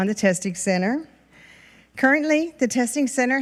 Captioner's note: none